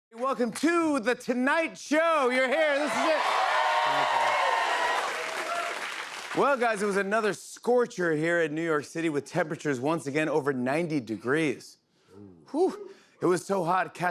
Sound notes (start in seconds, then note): 2.6 cheers and applause